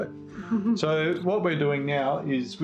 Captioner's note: chuckles